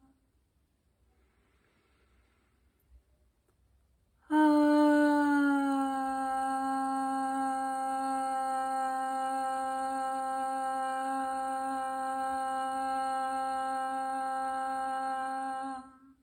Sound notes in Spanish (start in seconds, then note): 4.2 suspiro y tono